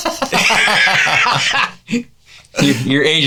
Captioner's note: laughing